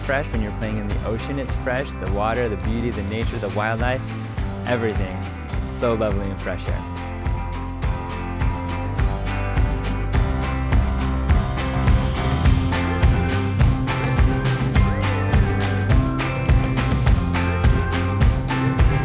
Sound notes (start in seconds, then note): 7.0 folk music; 12.4 bubbles